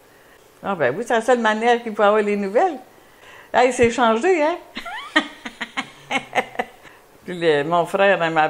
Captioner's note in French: rires